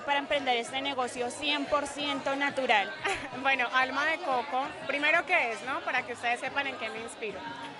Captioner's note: laugh